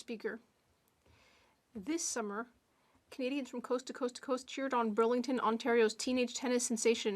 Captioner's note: speaking French